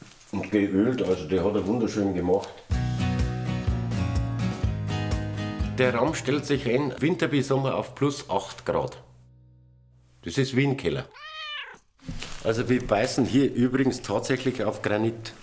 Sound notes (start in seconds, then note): 2.7 lively music; 11.1 meowing